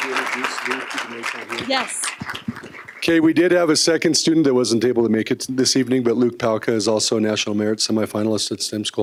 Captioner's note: applause